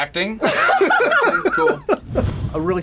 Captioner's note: laughter